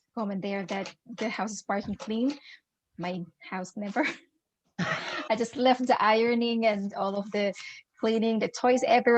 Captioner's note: laughter